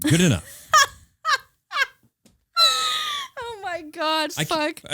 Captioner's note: laughing